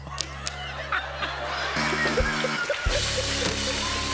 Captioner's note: laughter; buzzer